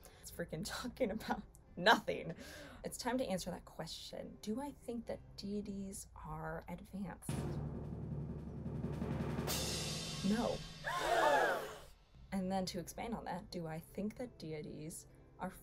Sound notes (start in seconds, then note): 7.3 kettle drum roll; 9.3 cymbals clash; 10.8 crowd gasps